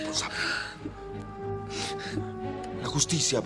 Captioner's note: Brenda still weeps in Spanish